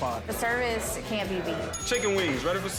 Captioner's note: bell rings